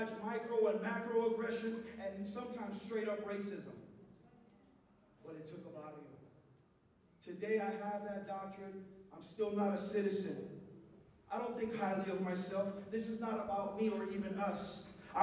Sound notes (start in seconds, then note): 5.3 non-english speech